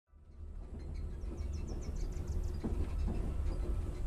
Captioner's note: nature sounds